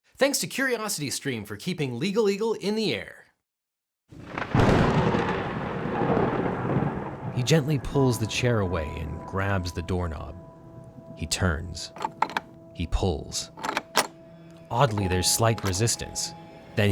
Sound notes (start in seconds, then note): 4.2 thunder cracks; 13.4 doorknob rattles